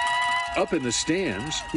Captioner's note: cheering